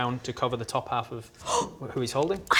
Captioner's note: gasp!